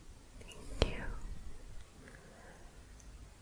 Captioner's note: none